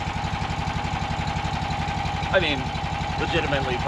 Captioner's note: generator rumbles